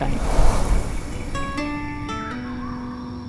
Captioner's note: whoosh of wind